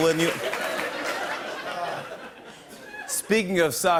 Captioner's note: light laughter; normal voice